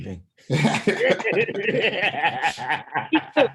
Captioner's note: laughing